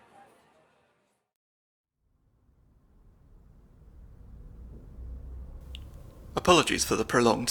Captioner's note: basement ambience